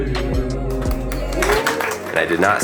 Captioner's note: everyone clapping